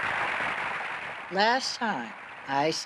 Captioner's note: applause